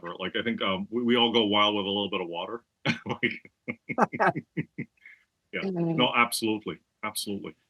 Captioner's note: laugh